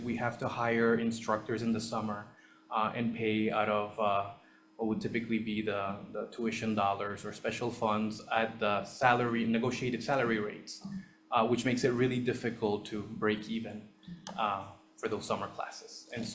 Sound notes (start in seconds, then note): none